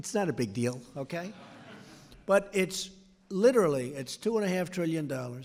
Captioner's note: laughter